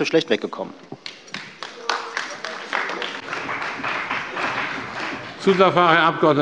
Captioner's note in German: Beifall bei der CDU und dem BÜNDNIS 90/DIE GRÜNEN